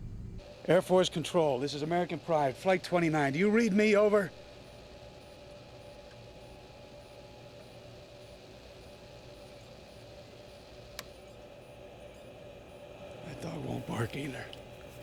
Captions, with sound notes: AIR FORCE CONTROL, THIS IS AMERICAN PRIDE FLIGHT 29. DO YOU READ ME ? OVER. [ Static Continues ] [ Radio Clicks Off, Static Stops ] THAT DOG WON'T BARK EITHER.